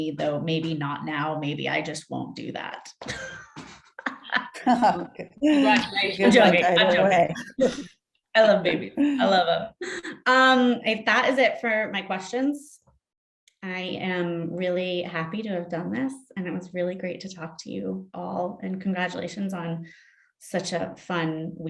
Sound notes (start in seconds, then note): 4.0 laughing; 4.4 group speaking together